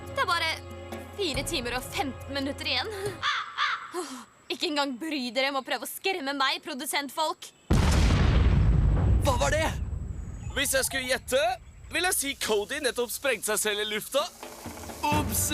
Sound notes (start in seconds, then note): 3.2 crow squawks; 7.7 explosion